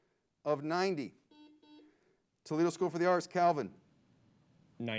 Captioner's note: buzzer beeps